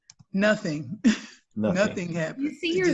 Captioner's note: laughs